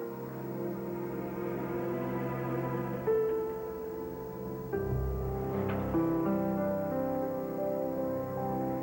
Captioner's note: floor creaks